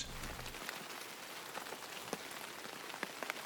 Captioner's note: rain droplets on trees